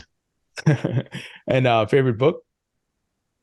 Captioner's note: laughs